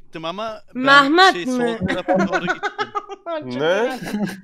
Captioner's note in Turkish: gülerek